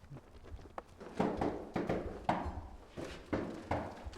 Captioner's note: knocking on door